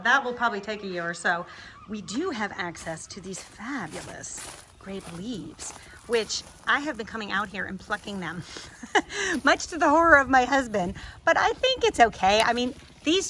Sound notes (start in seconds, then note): 2.5 gravel crunching; 8.5 laughs